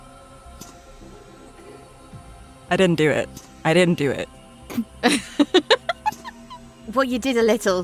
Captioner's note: giggles